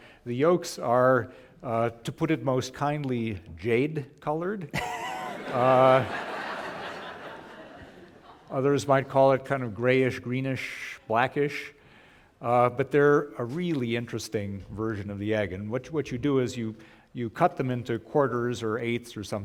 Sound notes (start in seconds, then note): 4.7 laughter